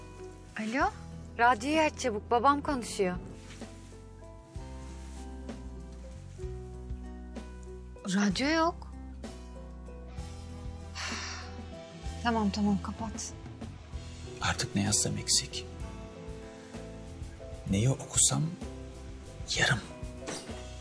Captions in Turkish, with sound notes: Alo? Radyoyu aç çabuk, babam konuşuyor. Radyo yok. (İç çekiyor) Tamam, tamam kapat. Artık ne yazsam eksik, neyi okusam yarım,